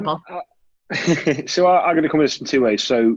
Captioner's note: chuckles